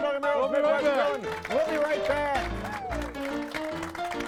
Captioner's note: crowd clapping; upbeat piano music continues